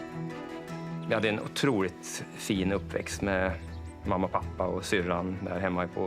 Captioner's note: speaking in foreign language